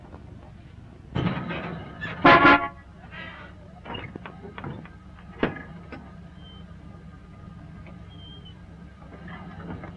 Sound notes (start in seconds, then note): 2.1 horn honking; 3.8 gate rattling